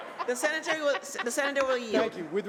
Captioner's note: laughter